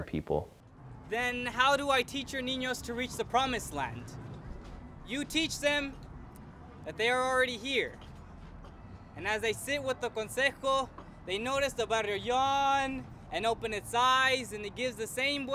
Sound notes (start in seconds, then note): 9.2 speaking foreign language